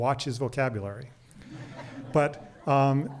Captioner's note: crowd laughing